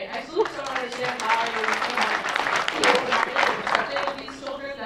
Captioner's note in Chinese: 群眾拍手